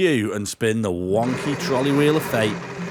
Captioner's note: wheel spinning